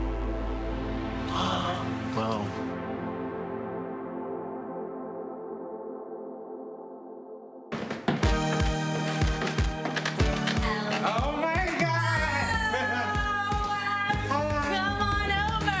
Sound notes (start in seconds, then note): 0.8 gasps; 7.8 upbeat music